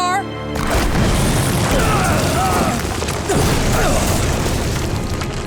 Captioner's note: groaning